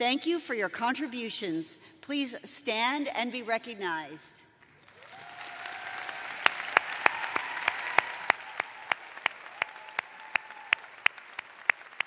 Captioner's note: cheers and applause